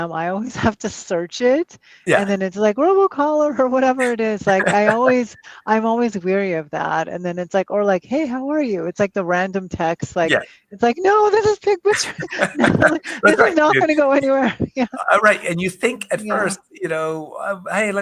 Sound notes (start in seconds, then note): 11.9 laughter